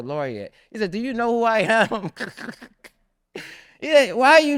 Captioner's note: laughs